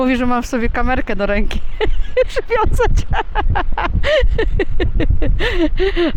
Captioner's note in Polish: śmiech